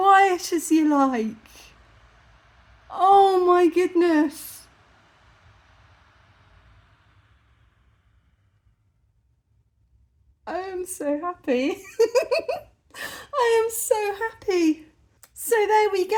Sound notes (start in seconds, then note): 5.6 fans returning to silent; 11.8 giggling